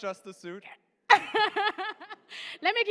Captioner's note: laughter